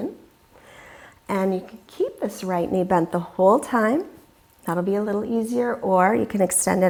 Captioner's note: loudly exhaling